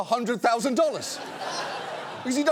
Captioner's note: audience laughs